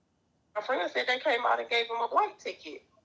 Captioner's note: phone Voice